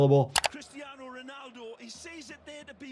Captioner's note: keyboard clicking